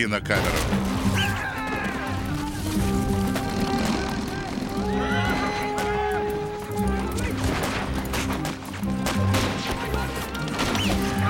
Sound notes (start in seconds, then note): 0.3 explosions; 1.1 men screaming; 3.1 horse neighing; 3.2 camera whirring